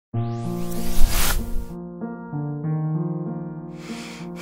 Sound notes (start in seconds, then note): 0.6 flash Sound